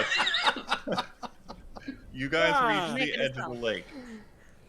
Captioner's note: laughter